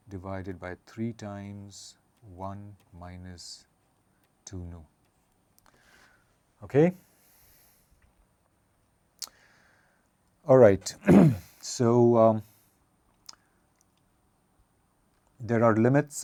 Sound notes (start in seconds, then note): 11.0 cough